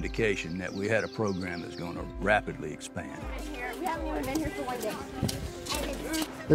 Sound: kids Talking

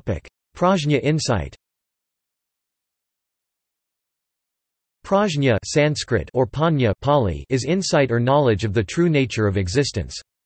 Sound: Pāli

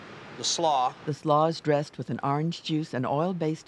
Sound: voiceover

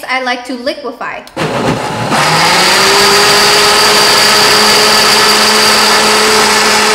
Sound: whirring

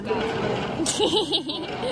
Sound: laughter

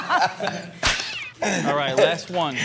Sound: Pauly D laughs; whip cracks

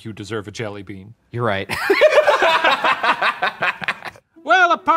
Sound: all laugh

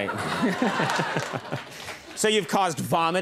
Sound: audience laughs

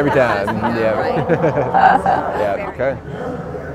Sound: laughing

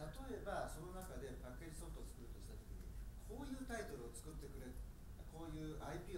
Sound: speaking in foreign language

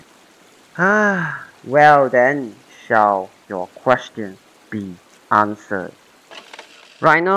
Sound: sighs

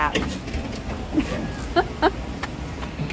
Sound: laugh

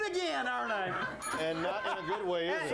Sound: bell rings

